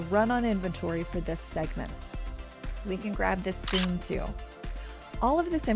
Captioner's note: camera shutter sound